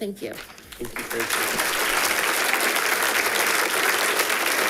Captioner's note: audience applauding